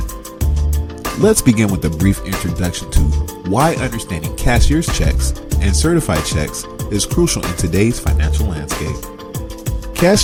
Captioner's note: voiceover